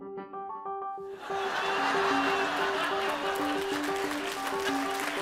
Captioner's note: audience laughing; audience applause and cheers